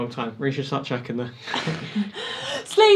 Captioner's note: Ryan and Abi laugh